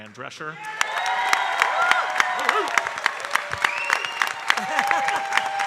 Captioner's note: audience cheering and applauding